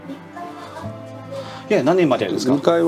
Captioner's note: speaking foreign language